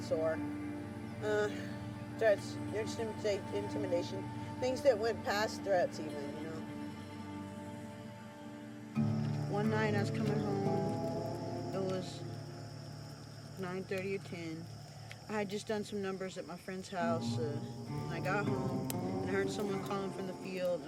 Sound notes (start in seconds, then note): 6.7 crickets chirping